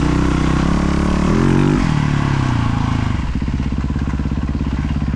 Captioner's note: engine revving